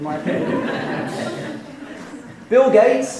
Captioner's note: laughing